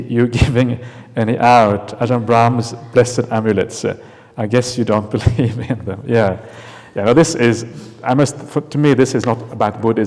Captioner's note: chuckles